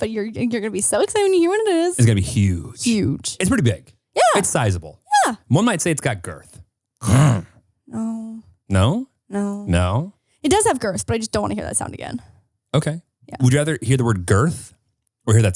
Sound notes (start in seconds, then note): 7.0 grunts